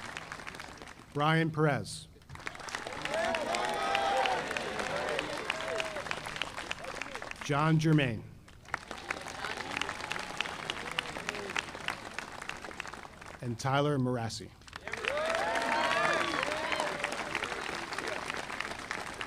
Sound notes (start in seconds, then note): 2.3 audience applauding; 14.6 audience applauding